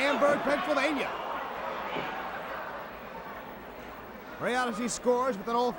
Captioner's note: crowd chatter